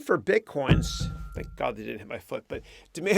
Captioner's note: reverberating thump